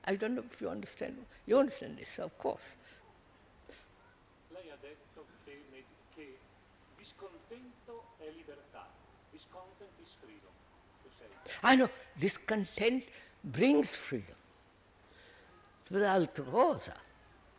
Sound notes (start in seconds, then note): 5.2 Italian